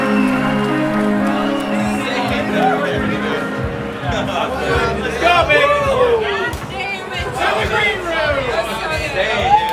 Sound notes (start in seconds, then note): 2.4 people chattering; 5.9 people yelling